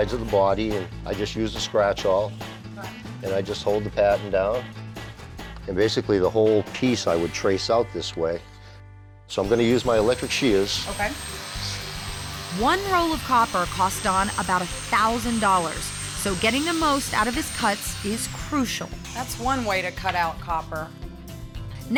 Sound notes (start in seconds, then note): 11.8 buzzing